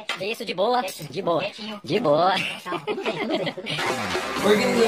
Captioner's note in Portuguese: risos